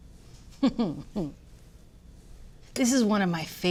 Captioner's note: laughs